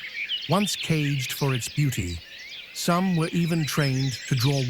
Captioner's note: birds chirping